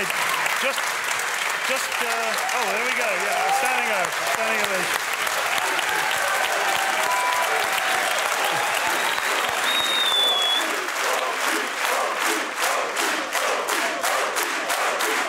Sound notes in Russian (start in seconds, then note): 6.2 публика аплодирует